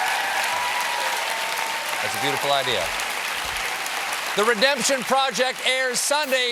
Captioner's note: applause